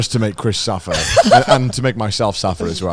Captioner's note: laughs